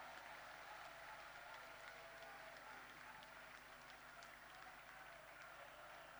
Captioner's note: applause